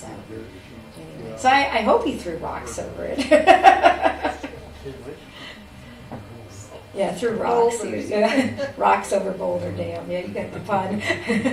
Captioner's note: laughs